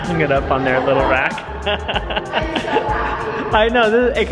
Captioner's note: laughs